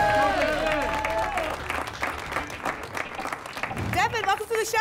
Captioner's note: applause and cheering